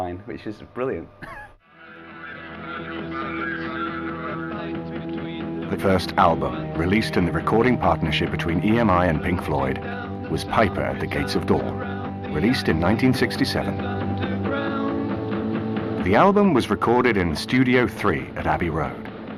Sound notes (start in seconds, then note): 1.2 chuckles